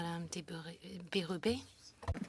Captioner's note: speaking French